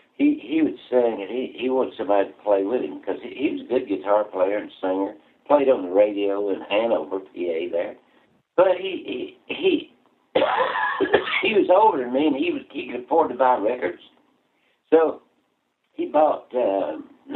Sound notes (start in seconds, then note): 10.3 cough